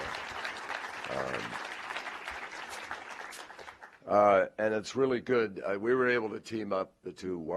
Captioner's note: applause